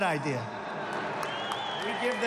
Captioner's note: laughter and applause